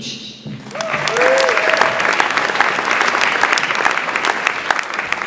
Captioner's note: audience applauds